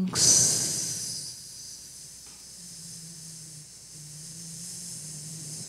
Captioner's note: hissing